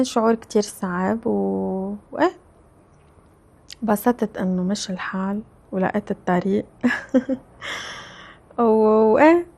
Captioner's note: laughs